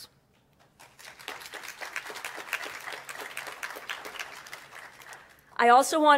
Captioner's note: applause